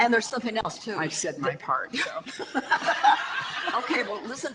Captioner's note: audience laughter